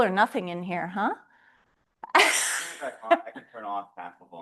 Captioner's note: laughter